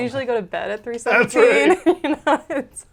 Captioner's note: laughs